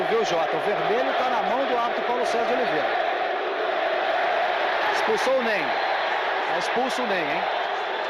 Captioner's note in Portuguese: aplausos